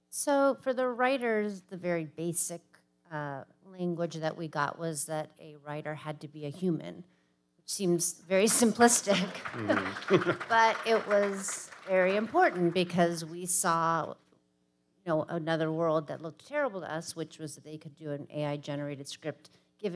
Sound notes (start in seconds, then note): 8.8 audience applauding